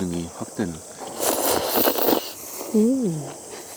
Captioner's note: slurping noodles despite the spiciness